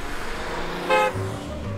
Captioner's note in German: Hupen